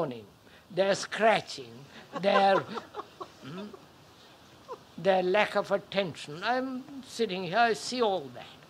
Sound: laughter

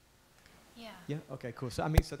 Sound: voiceover

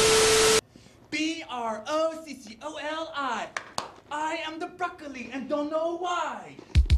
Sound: clap clap

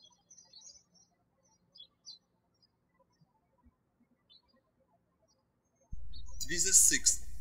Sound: birds chirping

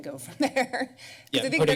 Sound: laughs

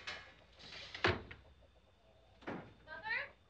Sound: door closing

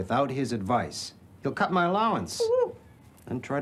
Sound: whimpers

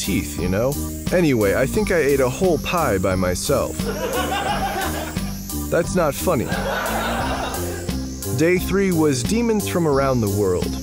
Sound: laugh Track

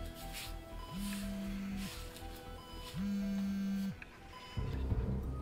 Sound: phone ringing

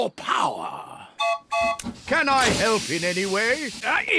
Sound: toots horn

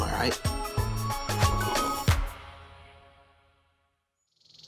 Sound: slurping

